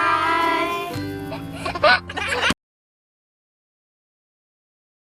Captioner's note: baby giggles